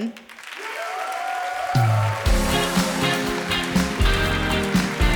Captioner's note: audience applauding